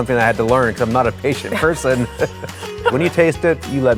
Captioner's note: both laughing